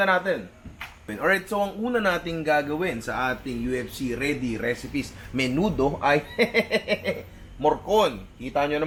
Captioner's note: laughs